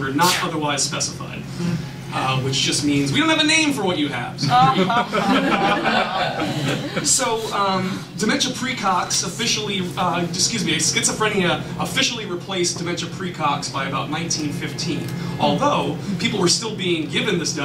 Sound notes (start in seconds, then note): 4.4 laughter